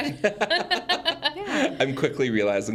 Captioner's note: group laughs